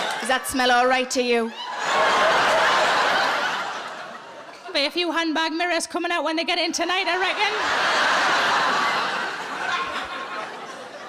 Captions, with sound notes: Does that smell all right to you? (audience laughing) There'll be a few handbag mirrors coming out when they get in tonight, I reckon. (audience laughing)